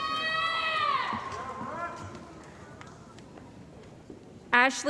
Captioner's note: cheering